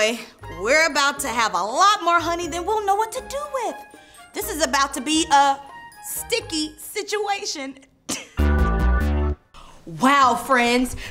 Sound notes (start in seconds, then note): 8.1 chuckles